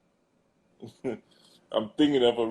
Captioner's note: laughs